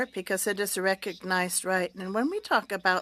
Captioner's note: speaking French